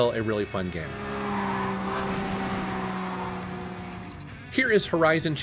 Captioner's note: Porsche engine roaring